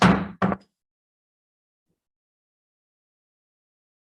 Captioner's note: gavel bangs